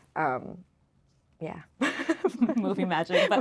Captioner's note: laughing